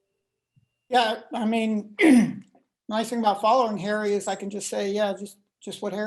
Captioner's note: cough